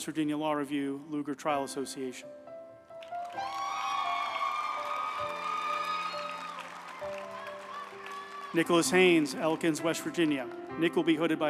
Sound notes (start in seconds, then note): 3.0 group applauding; 3.3 uplifting music